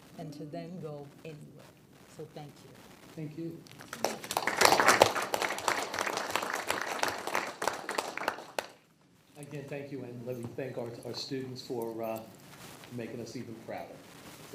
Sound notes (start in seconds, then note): 3.8 people applaud